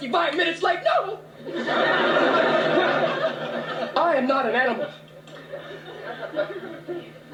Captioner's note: laughter